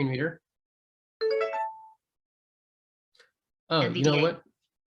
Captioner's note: software notification ding